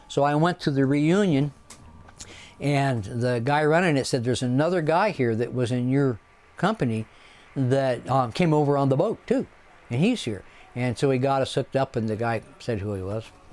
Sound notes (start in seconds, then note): none